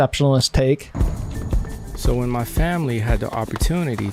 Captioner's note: male Voice